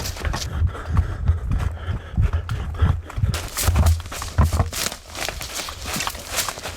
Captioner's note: breathing heavily; leaves crunching